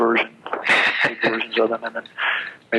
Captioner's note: laughs